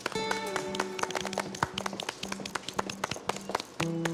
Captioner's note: contestants clap